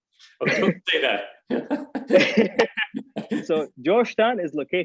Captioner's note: both laughing